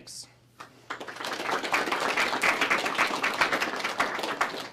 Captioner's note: applause